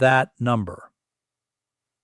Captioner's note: pause